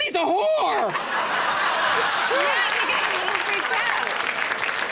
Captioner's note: crowd laughs